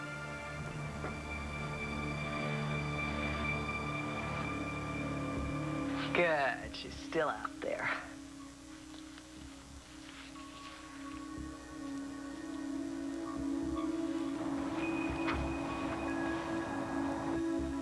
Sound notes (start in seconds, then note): 8.0 normal voice